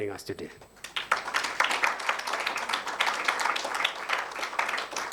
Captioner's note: attendees applauding